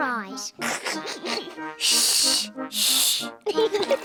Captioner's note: both laugh; giggles